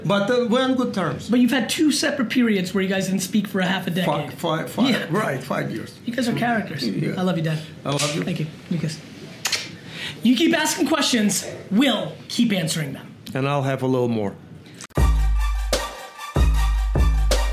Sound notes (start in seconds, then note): 9.4 kissing; 14.9 hip hop music